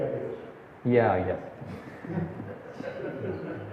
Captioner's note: laughs